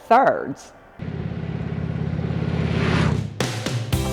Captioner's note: motorcycle engine revving; upbeat music